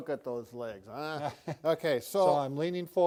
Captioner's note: doctors giggling